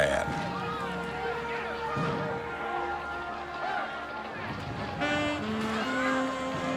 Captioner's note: crowd clamoring; pensive music